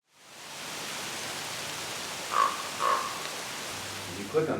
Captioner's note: wind and crow sounds